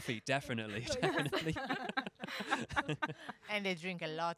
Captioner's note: laughing